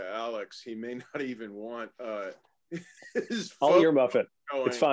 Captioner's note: laugh